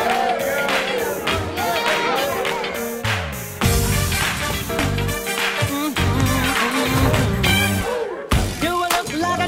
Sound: crowd cheers

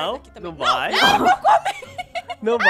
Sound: laughs

